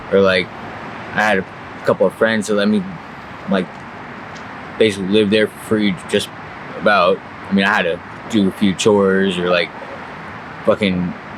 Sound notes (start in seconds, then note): none